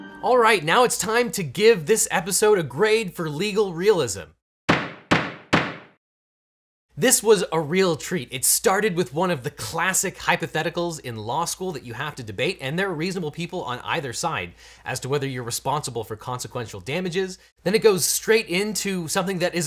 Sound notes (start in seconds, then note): 4.7 gavel bangs